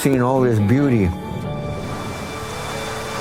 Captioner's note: wave sounds